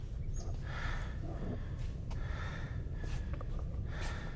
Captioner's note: heavy breathing